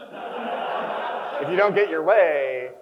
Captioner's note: crowd chuckles